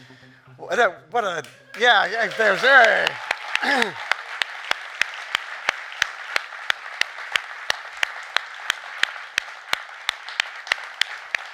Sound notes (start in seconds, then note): 1.2 clapping; 5.1 audience applauding